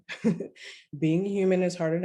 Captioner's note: laughter